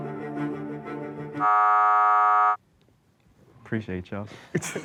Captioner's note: buzzer sounds